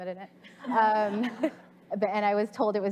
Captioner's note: audience laughs